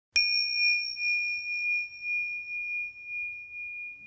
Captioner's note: bell rings